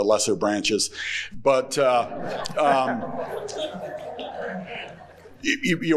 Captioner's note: everyone chuckling